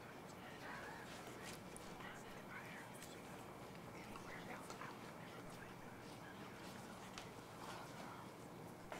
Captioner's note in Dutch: fluisterend